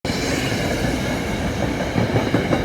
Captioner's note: train clicks and clacks on the tracks